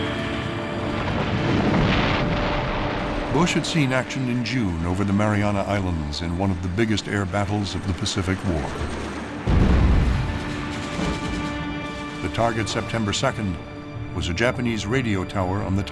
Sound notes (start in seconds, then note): 8.6 explosions